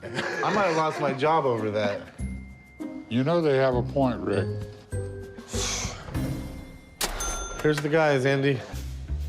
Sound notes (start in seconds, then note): 5.4 exhales sharply; 6.8 cash register rings